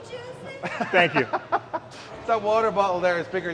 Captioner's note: Sheamus laughing